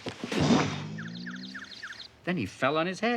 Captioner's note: birds chirping